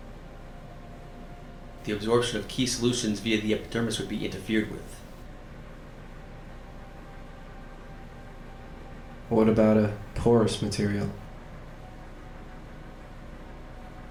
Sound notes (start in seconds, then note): none